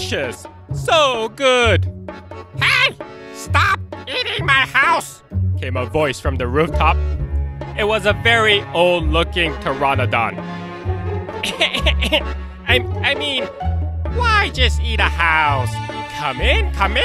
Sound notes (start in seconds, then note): 11.4 cough